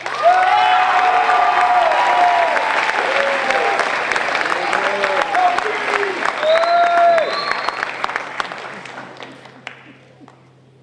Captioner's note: crowd cheering